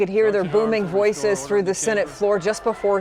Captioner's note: shouting